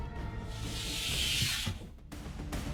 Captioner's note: door slides open